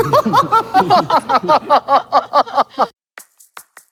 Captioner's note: Ik-june's contagious laugh